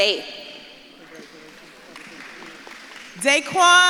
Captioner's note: audience clapping